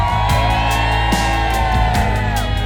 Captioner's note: cheering